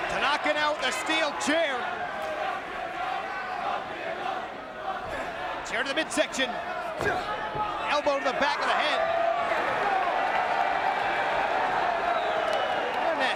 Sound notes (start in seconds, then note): 1.7 crowd chanting; 9.7 crowd exclaiming